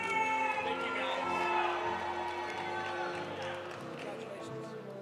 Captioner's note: audience cheering; audience applauding